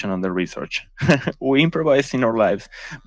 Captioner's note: chuckles